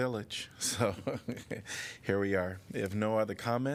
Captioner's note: laughter